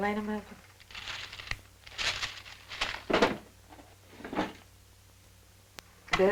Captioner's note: papers rustling